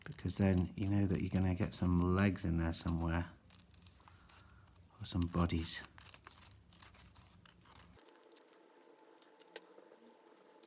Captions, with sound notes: because then you know that you're going to get some legs in there somewhere, or some bodies. (paper rustling)